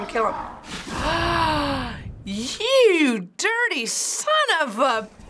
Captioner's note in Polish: dramatyczny wdech